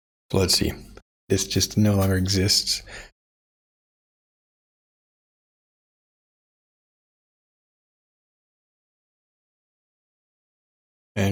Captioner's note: blank Audio